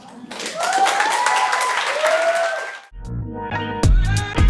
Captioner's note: audience clapping and cheering; upbeat music